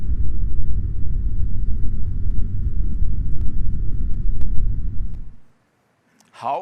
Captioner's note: airplane engine continues rumbling